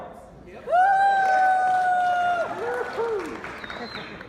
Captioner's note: audience clapping